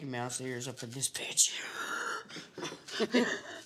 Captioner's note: laughs